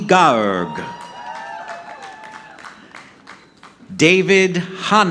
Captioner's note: audience clapping